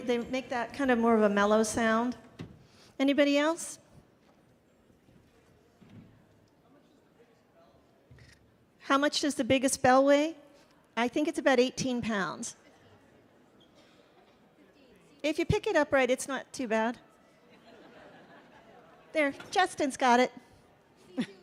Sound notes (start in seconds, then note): 17.4 audience laughing